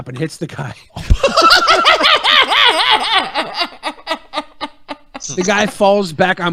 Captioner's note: laughing